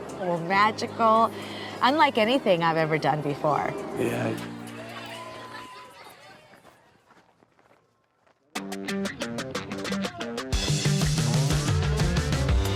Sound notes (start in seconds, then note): 5.1 group chattering; 5.2 group laughs; 8.6 slow rock music